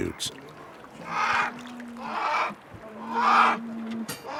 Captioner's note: bears cry